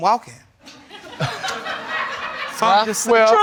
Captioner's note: audience laughing